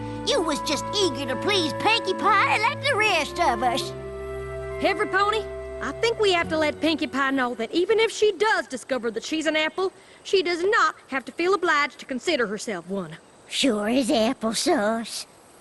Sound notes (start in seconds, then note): none